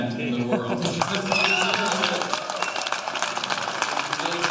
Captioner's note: cheers and applause